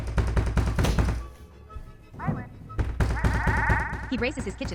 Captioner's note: pounding on door